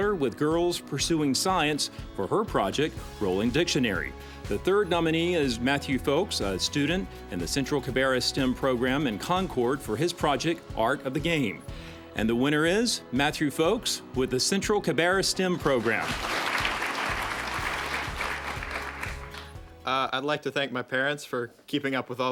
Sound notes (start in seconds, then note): 15.6 applause